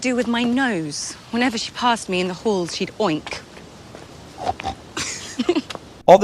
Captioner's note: oinks